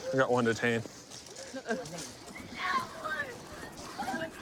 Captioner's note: yelling